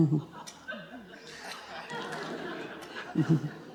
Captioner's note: audience laughs